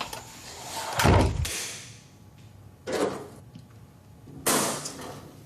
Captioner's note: fuse box clanging